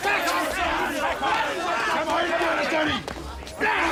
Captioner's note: officers and prisoners continue shouting